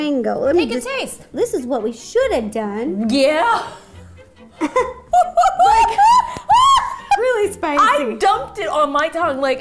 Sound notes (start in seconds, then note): 4.5 giggles